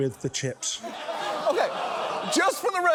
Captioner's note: audience groans